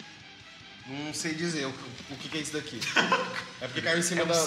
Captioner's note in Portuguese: risada